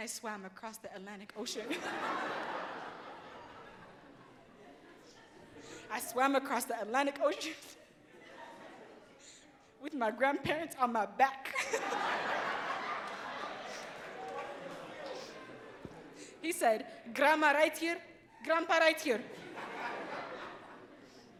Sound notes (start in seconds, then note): 9.4 laughs; 11.5 audience laughs